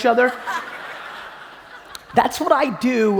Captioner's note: audience laughing